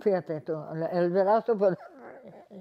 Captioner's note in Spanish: Ríe